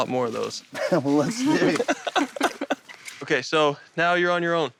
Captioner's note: laughter